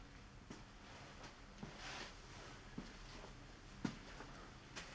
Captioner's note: footsteps thudding